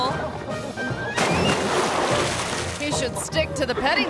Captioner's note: water splashing